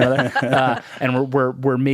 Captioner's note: all laughing